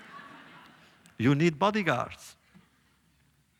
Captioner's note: laughter